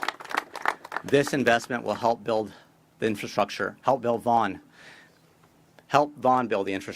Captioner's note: applause